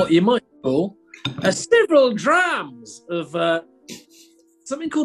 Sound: bad scottish accent

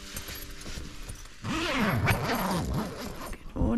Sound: zipper

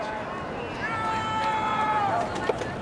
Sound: chanting

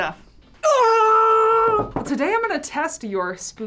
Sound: exclaims

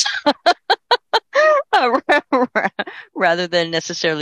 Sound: laughing

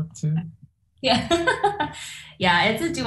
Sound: laughs

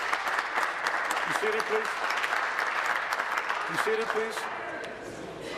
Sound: applause

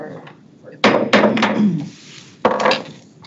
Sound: gavel taps

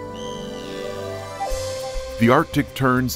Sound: birds chirping

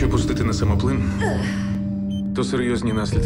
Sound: gasps

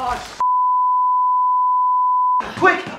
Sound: beep

